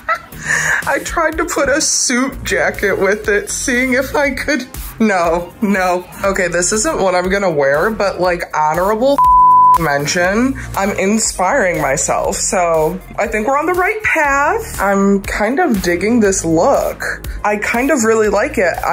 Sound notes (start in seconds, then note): 0.0 laughs; 9.1 beep